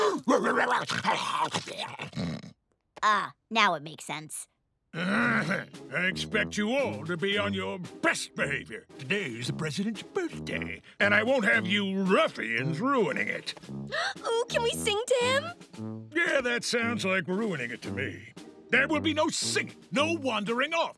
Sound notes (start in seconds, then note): 0.1 barking and snarling; 5.0 clears throat